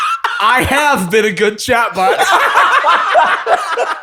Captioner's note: laughter